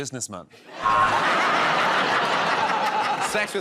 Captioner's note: laughter